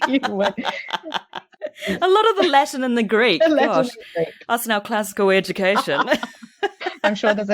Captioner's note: laughs